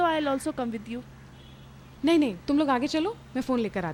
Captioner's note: none